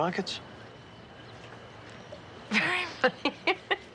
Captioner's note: laughs